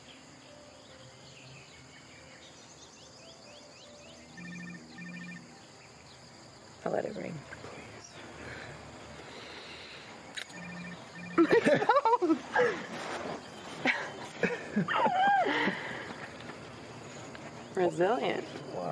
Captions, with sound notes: [cell phone rings] I'll let it ring. [laughs] My phone!e! [both laugh] - Resililient. - Wow.